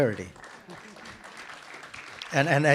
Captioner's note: participants clap